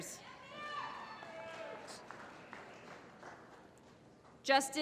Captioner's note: applause